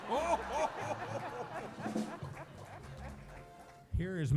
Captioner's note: laughter